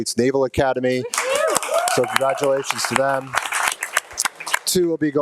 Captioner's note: people clapping and cheering